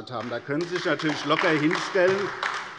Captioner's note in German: Beifall AfD